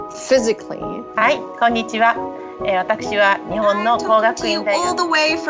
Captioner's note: speaking Japanese